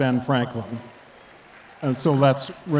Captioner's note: attendees clapping